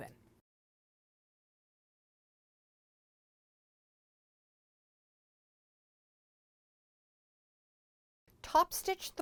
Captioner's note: no Sound Present